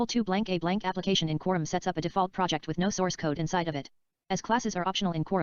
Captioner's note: screen reader audio continues